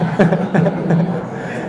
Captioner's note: laughs